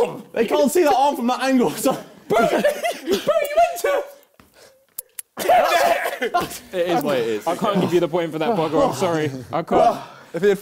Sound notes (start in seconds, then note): 4.9 both laughing